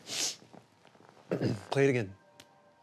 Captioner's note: clears throat